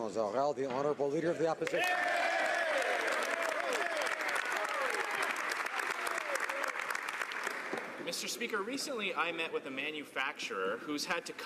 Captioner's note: some Applause